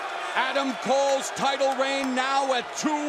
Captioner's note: crowd cheering